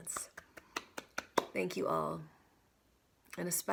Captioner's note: clapping